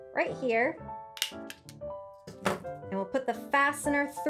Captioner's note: hole punch clicks